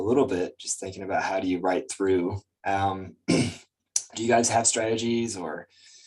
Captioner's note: clears throat